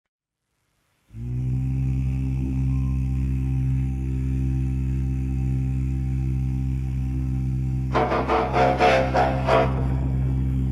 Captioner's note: deep rhythmic breathing